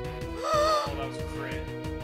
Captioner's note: gasp